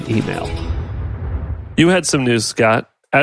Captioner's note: air whooshing